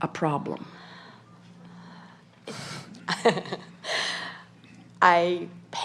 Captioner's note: laughter